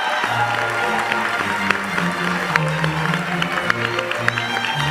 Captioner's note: cheers and applause